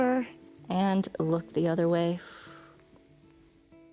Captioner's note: exhales